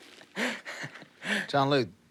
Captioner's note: exhales; inhales nervously; laughs nervously